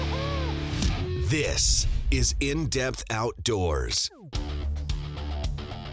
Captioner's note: voiceover; rock music